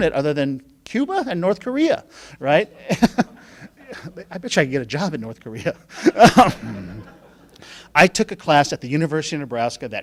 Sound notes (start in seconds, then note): 5.9 laughing